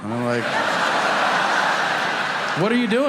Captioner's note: audience laughing